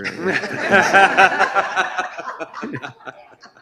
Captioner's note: laughter